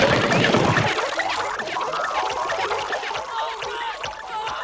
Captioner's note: gloinks boinging, squeaking